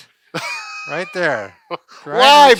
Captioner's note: laughing